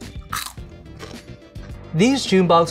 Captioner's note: crunching